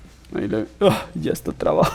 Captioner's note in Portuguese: ʀᴜÍᴅᴏꜱ ᴅᴇ ꜱᴏꜰʀɪᴍᴇɴᴛᴏ